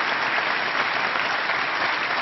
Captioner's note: applause